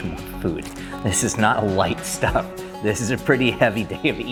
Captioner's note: laughing